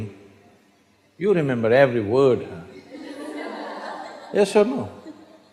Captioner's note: laughter